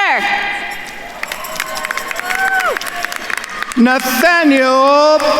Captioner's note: attendees cheering and applauding